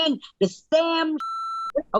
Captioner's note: beep